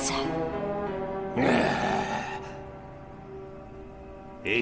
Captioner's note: growling